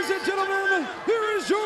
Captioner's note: bell ringing